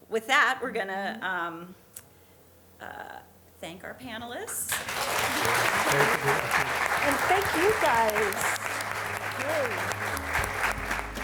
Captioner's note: applause